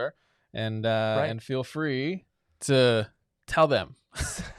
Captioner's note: laughs